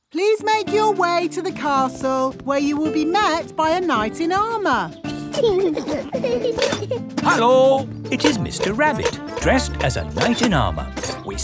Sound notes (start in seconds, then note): 5.0 children giggling